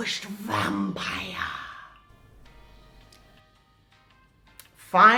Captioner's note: silence